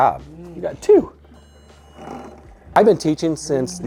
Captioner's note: spinner beeping